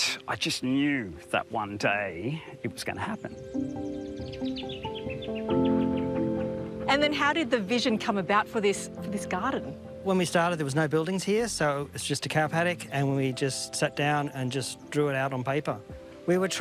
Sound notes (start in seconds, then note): none